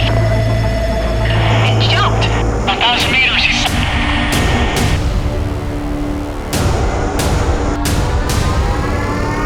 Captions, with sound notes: - [Voiceover] It jumped. Woah. (radio drowned out by static) (dramatic music)